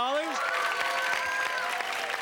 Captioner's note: cheers and applause